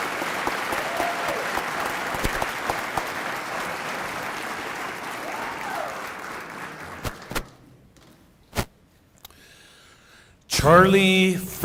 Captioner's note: cheering and applause